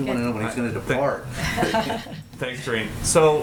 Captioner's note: laughter